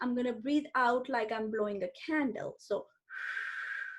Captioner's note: blows